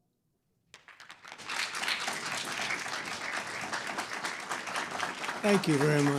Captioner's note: applause